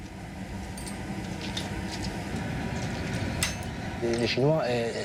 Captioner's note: chains clinking